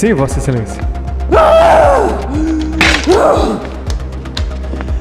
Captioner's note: Helena screams in anger